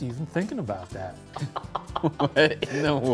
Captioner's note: laughs